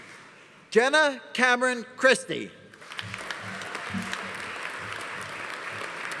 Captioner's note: audience applauding